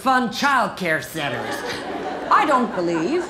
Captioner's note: laughter